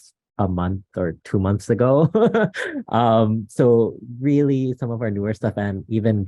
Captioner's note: laughs